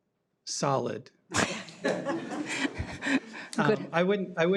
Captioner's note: audience laughs